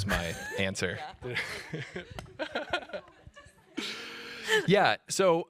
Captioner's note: laughter